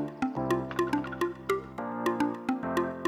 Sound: faint clattering

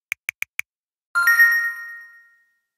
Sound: ding!

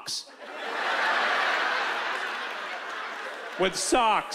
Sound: laughter

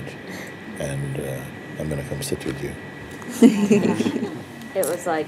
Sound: laughter

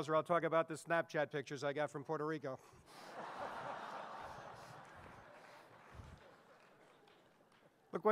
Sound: audience laughing

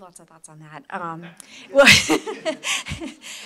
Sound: laughter

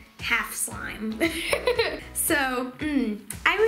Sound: laughing

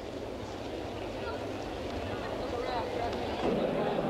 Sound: crowd chattering

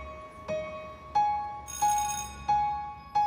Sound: bell rings

